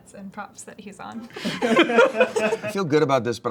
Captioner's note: everyone laughs